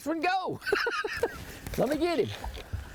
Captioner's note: laughs